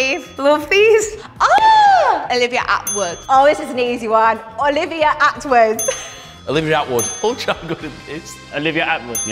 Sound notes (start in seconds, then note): 0.1 correct bell; 2.8 correct bell; 6.8 correct bell